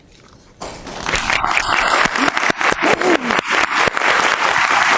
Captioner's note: audience applauding